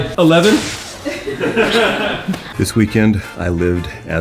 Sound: laughter

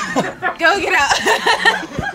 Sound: everyone laughs

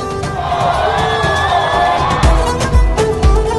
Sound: cheering

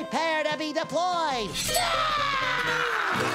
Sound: screaming

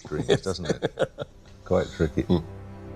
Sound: chuckling

